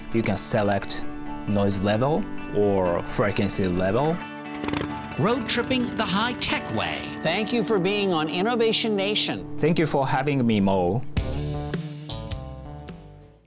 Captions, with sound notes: You can select noise level or frequency level. (motorcycle revving) - Road-tripping the high-tech way. Thank you for being on Innovation Nation. - Thank you for having me, Mo. (soft music)